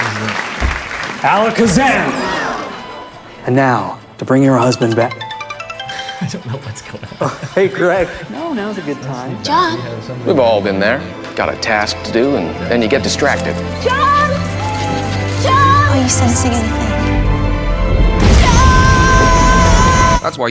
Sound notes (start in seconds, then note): 0.0 applause; 0.0 audience gasping; 5.7 phone ringing; 5.9 laughs; 19.1 dramatic music